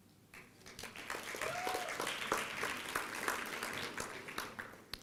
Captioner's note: applause